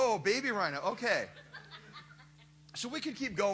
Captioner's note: laughter